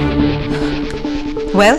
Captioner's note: Sighs